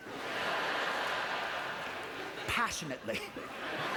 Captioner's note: audience laughter